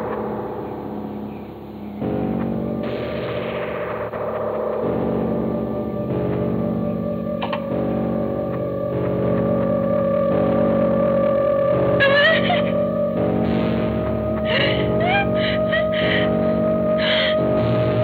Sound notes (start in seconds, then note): 11.9 terrified cries